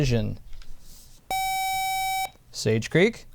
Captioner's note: buzzer